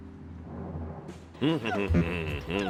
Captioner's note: hums